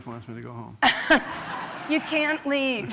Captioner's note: laughter